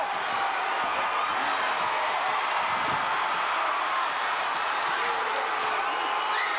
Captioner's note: crowd cheering; crowd chattering